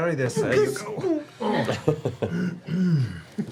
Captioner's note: grunts